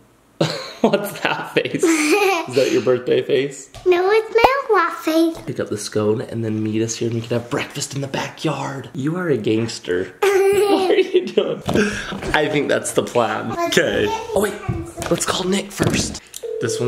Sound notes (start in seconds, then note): 0.5 laughs; 10.2 laughs